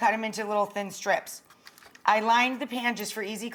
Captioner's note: tinfoil crinkles